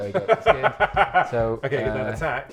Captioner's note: laughing